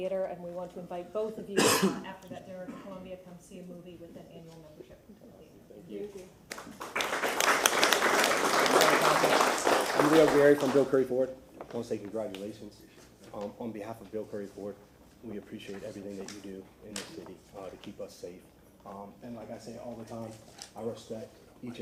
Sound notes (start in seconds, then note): 9.4 applause